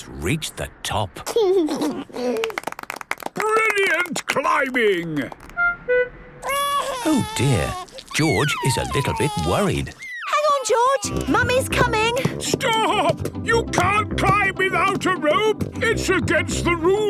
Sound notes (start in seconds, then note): 1.6 George giggles; 2.3 clapping; 6.4 crying